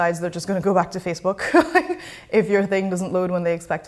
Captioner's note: chuckles